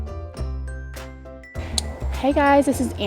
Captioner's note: chiming bells